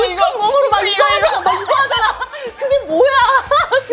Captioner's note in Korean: 쓱싹쓱싹